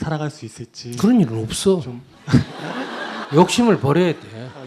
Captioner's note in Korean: 청중 웃음